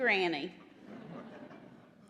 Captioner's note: laughter